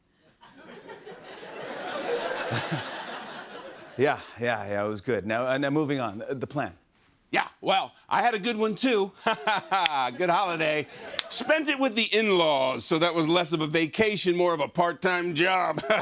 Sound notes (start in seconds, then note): 0.3 laughter; 1.2 laughs; 9.2 laughs; 15.8 laughs